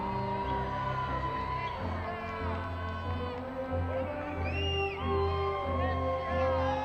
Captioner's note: crowd cheering